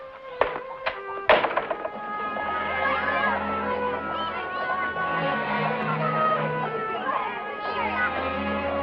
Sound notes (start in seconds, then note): 1.2 door closes